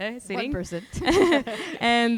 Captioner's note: both laughing